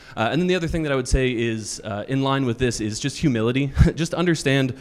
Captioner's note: chuckles